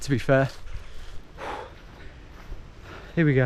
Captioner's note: exhales